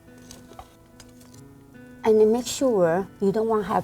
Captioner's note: rustling